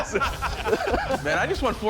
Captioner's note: laughter